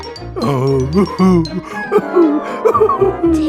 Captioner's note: Tigger sobbing noises